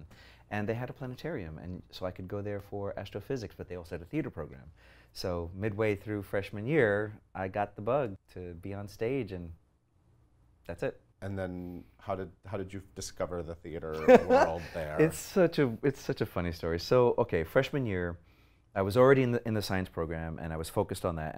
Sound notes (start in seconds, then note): 14.0 laughs